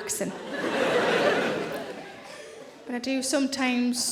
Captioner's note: audience laughing